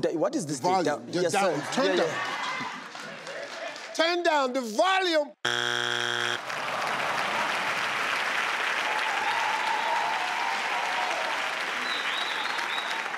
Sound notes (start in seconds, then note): 5.4 board honks; 6.2 audience clapping; 9.9 audience applauding